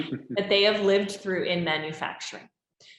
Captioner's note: chuckles